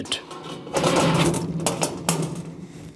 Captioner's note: clattering